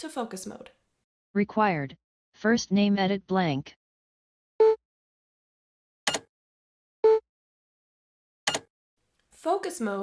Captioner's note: beeps from focus to browse mode